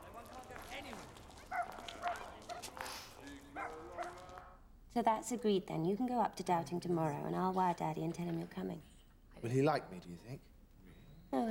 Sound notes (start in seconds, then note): 0.0 people chattering; 1.4 dog barking